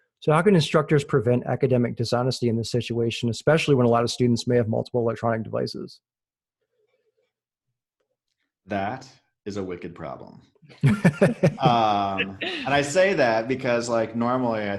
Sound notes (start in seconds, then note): 10.8 laughing